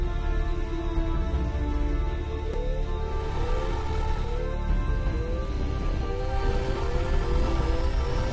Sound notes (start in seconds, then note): 2.6 groaning